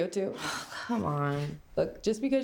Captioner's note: sighs